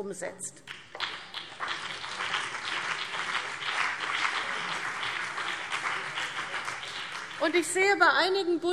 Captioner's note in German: Beifall CDU und BÜNDNIS 90/DIE GRÜNEN